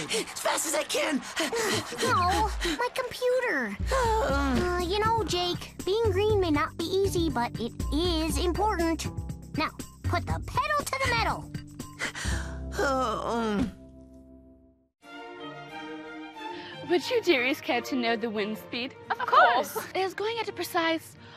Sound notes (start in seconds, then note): 13.8 gasps; 19.1 with British accent